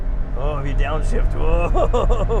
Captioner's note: Tim allen voice